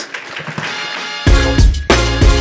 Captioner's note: audience clapping; upbeat music